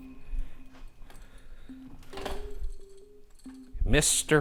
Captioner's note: equipment clattering